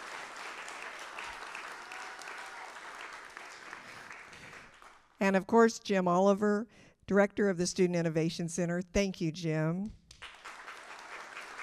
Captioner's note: applause